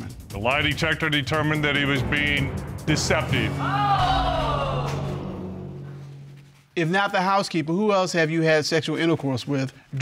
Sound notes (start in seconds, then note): 3.6 audience exclaiming